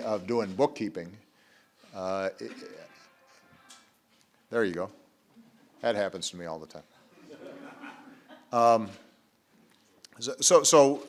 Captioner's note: A phone rings